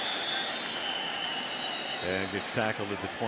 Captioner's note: whistle blowing